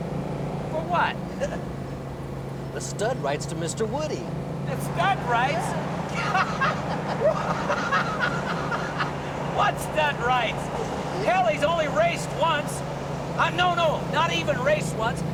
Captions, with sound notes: - For what? (Joe chuckles) - The stud rights to Mr. Woody. - The stud rights? - Yeah. (laughing and whooping) What stud rights? Hell, he's only raced once. I'm-- No-no, not even raced once.